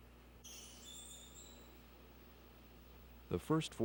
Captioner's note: otter squeaking